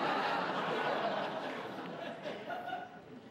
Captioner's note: laughter